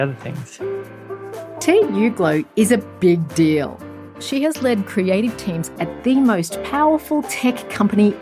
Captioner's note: voiceover